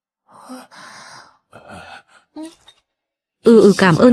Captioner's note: thở dài